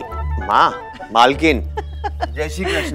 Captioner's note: Padimini laughing